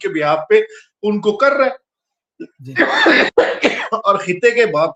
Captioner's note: laughter